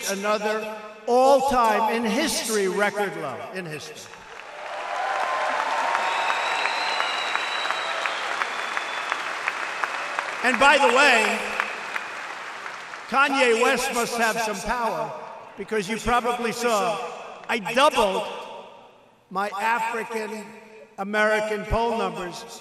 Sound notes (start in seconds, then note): 5.6 applause